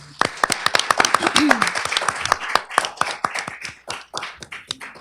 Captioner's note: applause